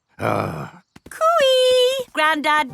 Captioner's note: grumbles